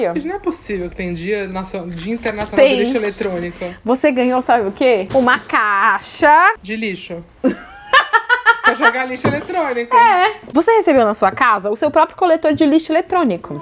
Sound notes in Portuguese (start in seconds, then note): 7.4 risos